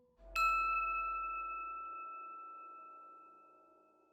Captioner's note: bell chimes